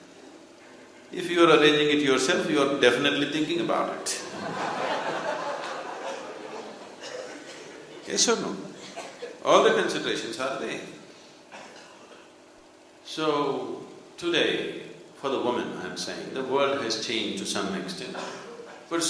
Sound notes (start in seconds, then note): 4.2 laughter